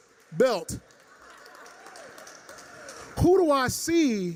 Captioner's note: laughter, applause